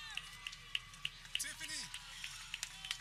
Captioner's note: people cheering